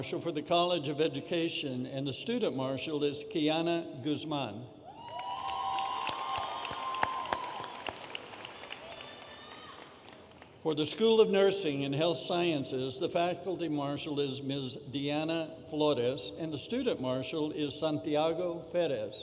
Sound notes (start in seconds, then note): 5.0 audience applauding and cheering